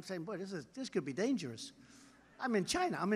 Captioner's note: laughter